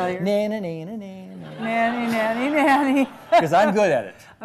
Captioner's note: sing-song